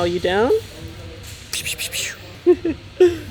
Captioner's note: makes water sound effects; laughs